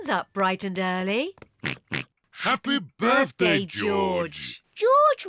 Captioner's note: oinks